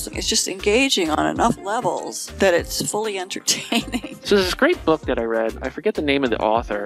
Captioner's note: laughing